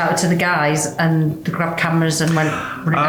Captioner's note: none